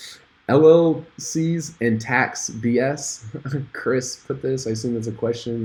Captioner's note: chuckles